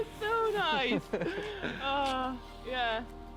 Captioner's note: laughing